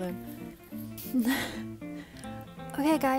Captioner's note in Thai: ถอนหายใจ